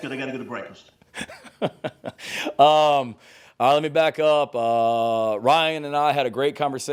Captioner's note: laughs